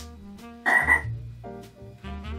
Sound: frog croak

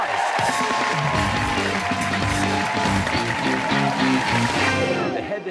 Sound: cheers and applause

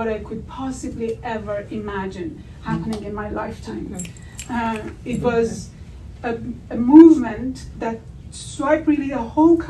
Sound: audience agreement

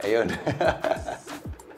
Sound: laughs

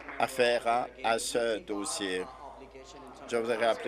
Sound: applause

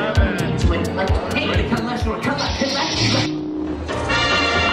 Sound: announcer talks excitedly; light saber clashes

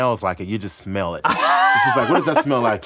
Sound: laughing

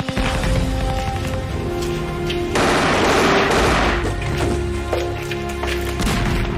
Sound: melancholy music; guns banging

